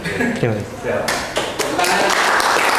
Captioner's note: applause